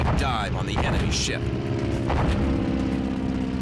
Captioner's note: engine whirring